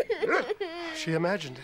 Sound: bark

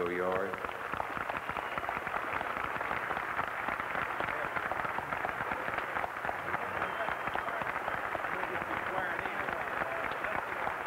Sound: applause

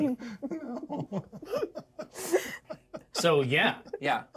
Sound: laughs

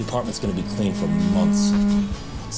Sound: phone buzzing

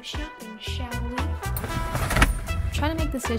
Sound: car door closes

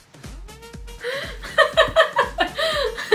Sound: laughs

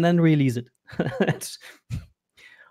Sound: laughing

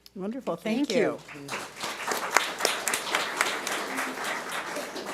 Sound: audience applauds

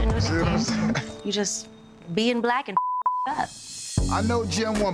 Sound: beep

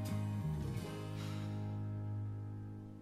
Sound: sighs

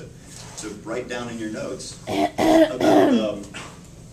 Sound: fake coughs

